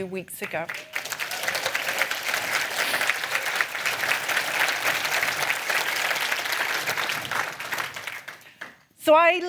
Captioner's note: applause